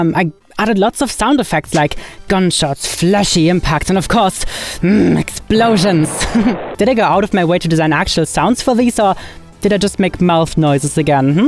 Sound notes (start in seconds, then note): 5.1 grunts